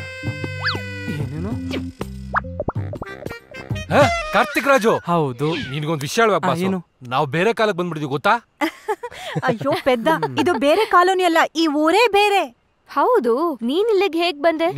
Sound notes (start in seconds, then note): 8.7 laughs